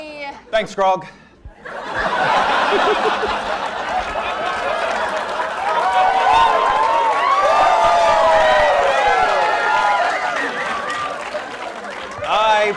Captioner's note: laughter